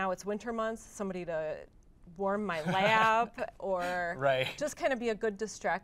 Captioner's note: laughs